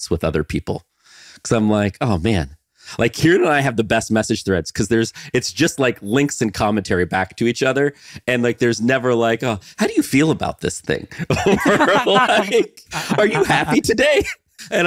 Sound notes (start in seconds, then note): 11.1 chuckling; 11.1 laughing